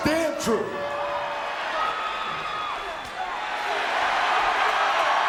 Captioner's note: audience cheering